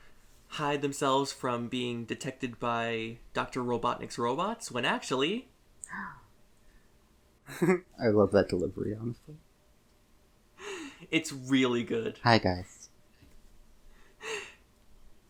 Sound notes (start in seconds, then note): 5.6 gasp; 7.5 giggles; 11.9 imitating Sally's voice